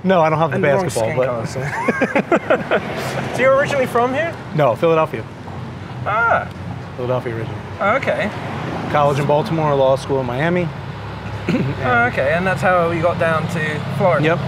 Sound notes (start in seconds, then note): 1.1 both laugh